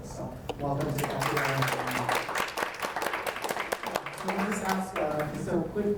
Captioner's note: audience applauds